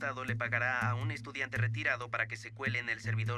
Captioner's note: voiceover